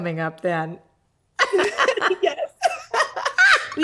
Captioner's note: both laugh